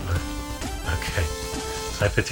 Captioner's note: laughing